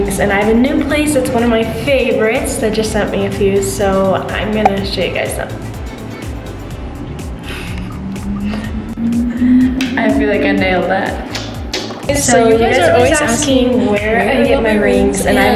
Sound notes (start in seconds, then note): 5.7 laughs